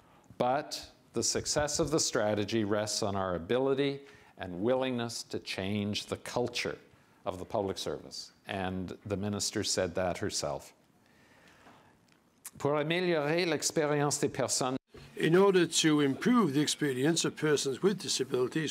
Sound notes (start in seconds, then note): 12.5 speaking in French